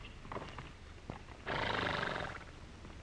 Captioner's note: horse snorting; hooves trotting